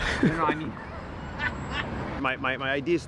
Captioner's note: laughing